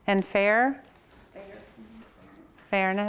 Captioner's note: murmurs